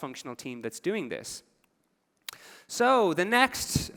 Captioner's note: none